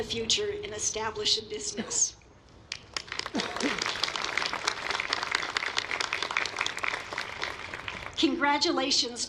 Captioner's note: applause